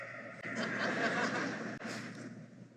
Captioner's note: laughter